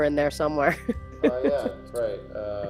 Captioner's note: laughs